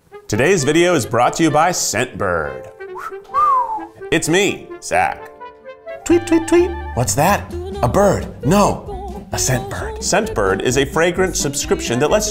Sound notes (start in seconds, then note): 2.9 whistles